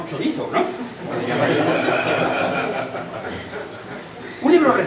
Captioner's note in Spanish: risas